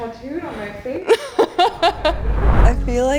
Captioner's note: laughs